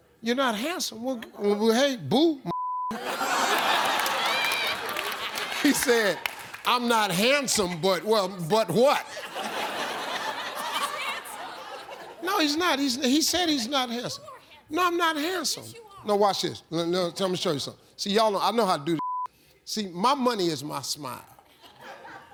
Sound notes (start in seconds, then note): 2.5 beep; 2.9 laughter; 8.4 laughter; 19.0 beep